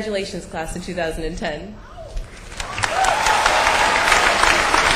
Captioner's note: cheers and applause